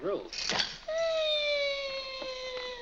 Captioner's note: loud click; Harlan makes whining sound